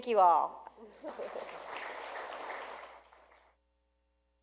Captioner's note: audience claps